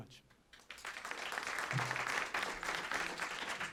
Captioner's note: applause